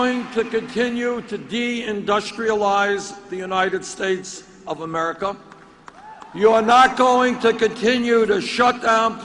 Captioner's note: cheering and applause